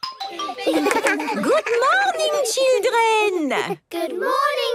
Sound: laughter

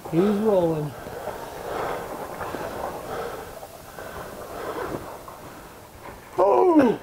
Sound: rocks Sliding

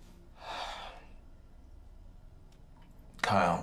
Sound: Max sighs

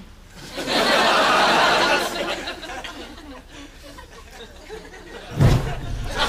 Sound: audience laughs; fire pops

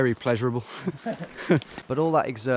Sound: laughing

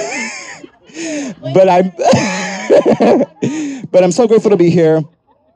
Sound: laughs

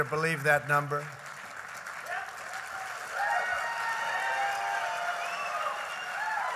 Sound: applause

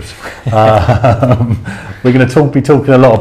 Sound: laughing

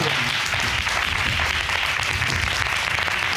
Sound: audience applauding

